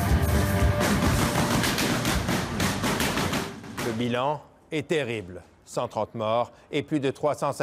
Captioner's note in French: tirs nourris